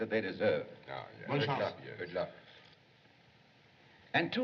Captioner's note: French